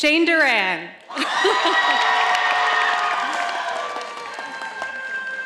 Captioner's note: audience applauding